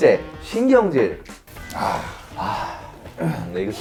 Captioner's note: nothing but sighs